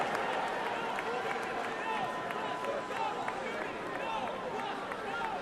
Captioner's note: cheering and applause